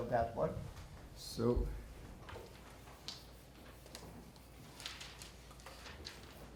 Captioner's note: shuffling Papers